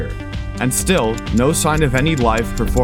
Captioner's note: clock ticking